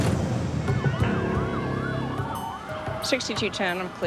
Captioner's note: sirens